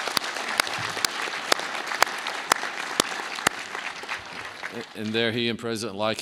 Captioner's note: applause